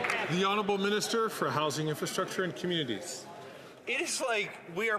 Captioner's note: some Applause